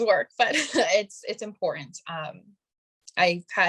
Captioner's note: chuckling